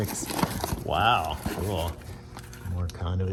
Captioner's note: sarcastically